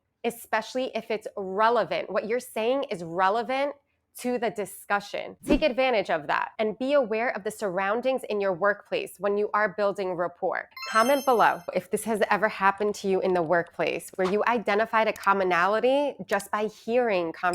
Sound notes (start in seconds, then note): 10.7 chimes ringing